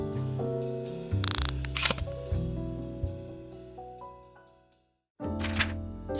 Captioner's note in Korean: 다이얼 소리